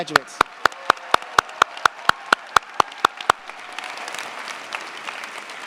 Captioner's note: cheers, applause